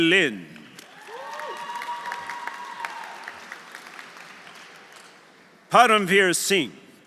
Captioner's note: audience applauding; audience cheering